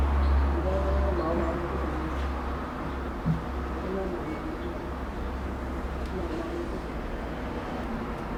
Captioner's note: speaking in Mandarin